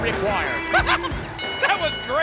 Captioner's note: Jerry laughs